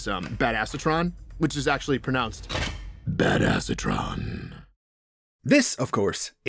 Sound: deep, growling voice

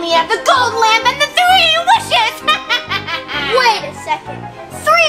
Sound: evil laughter

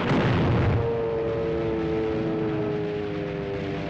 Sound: explosion Rumbles

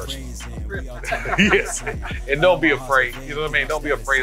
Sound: laughs

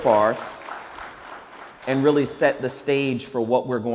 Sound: audience applauds

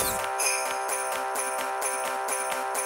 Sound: bells ringing

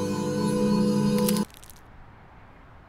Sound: intense music; something creaks

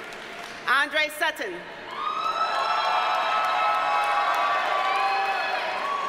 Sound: audience cheers and applauds; audience cheers and applauds

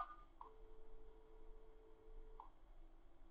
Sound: tick

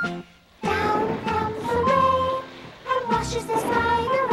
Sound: thunder

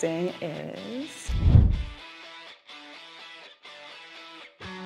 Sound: whooshing; transition music

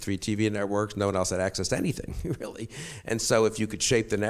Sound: chuckles

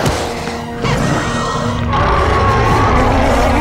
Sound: roaring

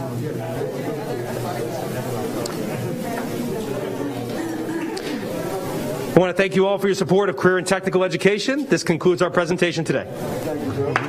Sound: applause

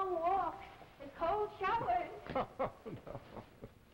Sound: Philippe laughs

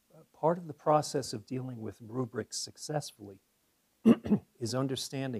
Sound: cough

